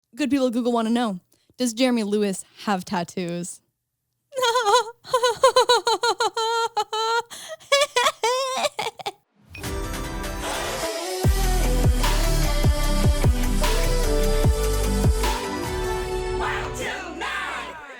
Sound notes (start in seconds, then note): 4.3 laughs; 9.6 upbeat music